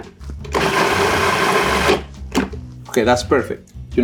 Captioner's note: food processor whirring